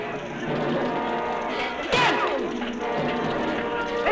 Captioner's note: grunting